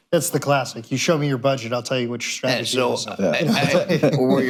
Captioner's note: laughter